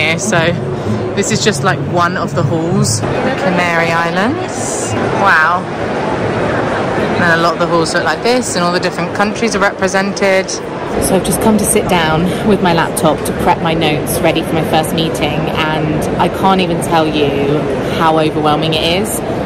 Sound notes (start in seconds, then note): 4.6 people chattering